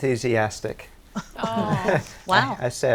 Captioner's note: all laughing